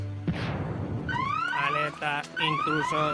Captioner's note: siren